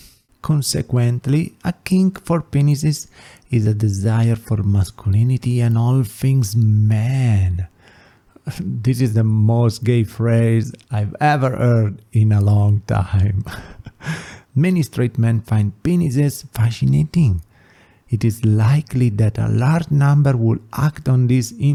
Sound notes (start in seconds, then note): 13.4 laughs